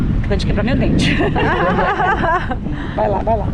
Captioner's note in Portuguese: risos